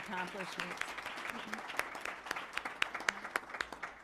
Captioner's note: applause